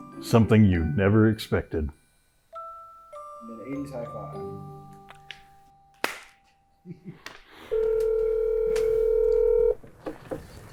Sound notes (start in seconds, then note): 6.0 hands slap; 7.7 phone rings